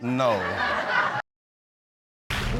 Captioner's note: audience laughs